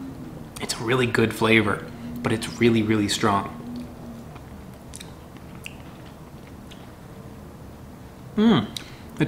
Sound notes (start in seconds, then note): 4.1 chewing